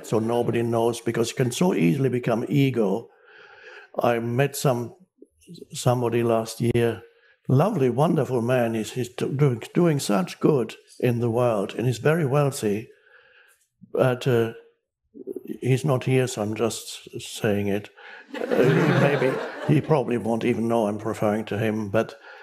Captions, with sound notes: So nobody knows because you can so easily become ego. I met some somebody last year. Lovely, wonderful man is he's doing, doing such good in the world and he's very wealthy, but he's not here. So I'm just saying it. (public laughing) Maybe he probably won't even know I'm referring to him, but